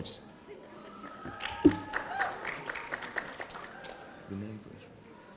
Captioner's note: audience applauding